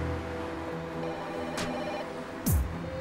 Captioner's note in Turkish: telefon çaliyor